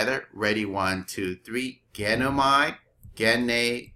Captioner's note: speaking greek